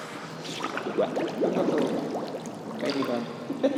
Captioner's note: water bubbling